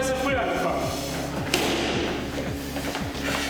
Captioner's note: loud clap